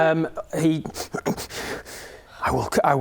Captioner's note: resisting and snarling